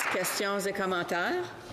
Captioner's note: applause